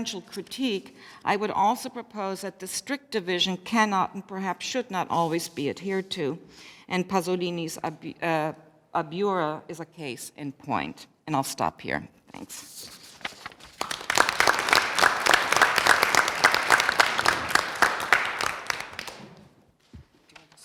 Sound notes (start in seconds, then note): 15.2 applause